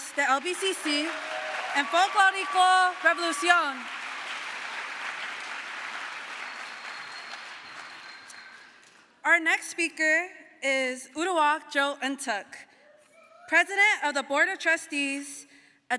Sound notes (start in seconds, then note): 4.3 crowd applause